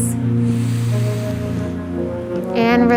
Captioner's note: inhaling